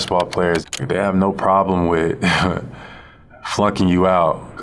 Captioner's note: laughs